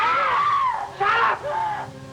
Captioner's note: Katie screaming